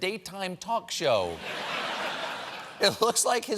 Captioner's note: laughter